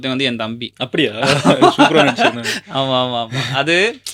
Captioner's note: laughter